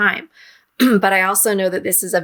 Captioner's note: clears throat